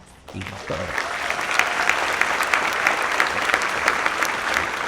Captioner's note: audience applauds